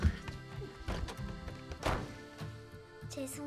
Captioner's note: slams the door